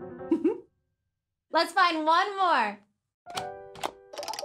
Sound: giggles

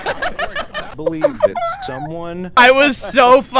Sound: laughter

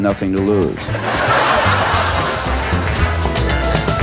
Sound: laughter

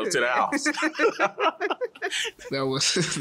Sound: laughs

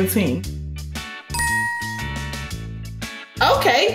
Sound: ding sound effect

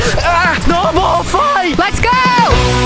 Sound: screams

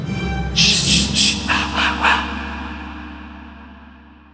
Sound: wind blowing

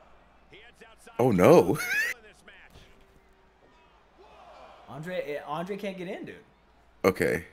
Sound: laugh

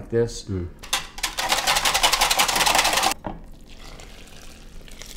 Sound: whisk rattling

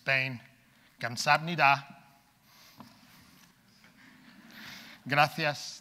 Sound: speaking in foreign language

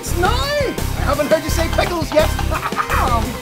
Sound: upbeat rock music; laughs

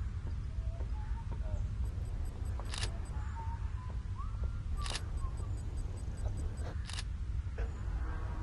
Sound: The 8-Bit Guy whistles his theme tune

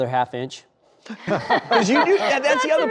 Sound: laughter

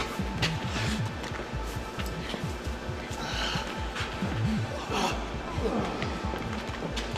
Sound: man gasping; man groaning

